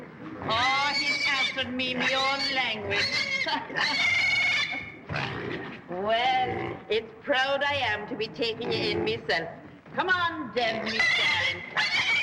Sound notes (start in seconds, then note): 0.5 squealing; 2.0 laughs; 4.9 grunting; 10.8 squealing